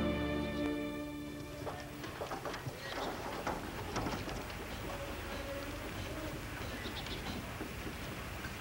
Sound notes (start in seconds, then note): 4.3 indistinct chattering